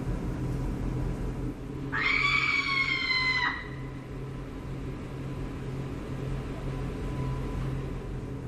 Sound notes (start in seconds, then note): 1.9 screaming